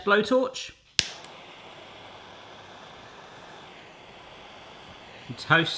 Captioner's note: blow torch whooshing